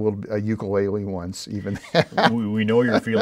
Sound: laughing

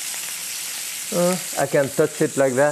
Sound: meat sizzling

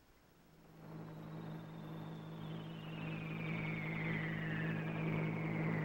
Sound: machine engine roars

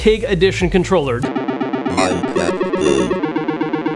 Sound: robotic Voice

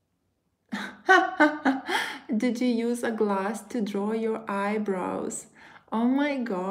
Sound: laughs

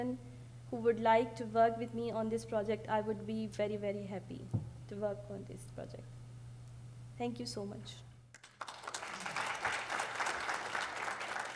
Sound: applause

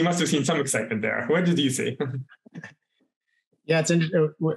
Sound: chuckles

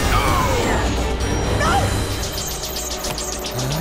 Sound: grunting

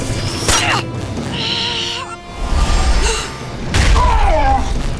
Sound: gasps; groans

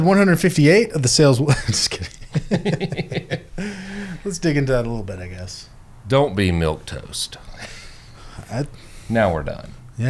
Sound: laughter

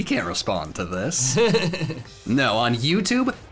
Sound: laughing

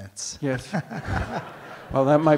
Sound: audience laughs

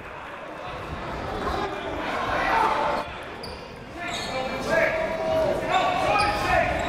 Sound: crowd talking; coaches yelling

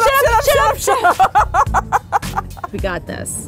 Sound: laughing

